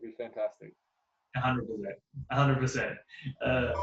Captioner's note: chuckles